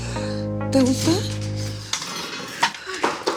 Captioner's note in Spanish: Portazo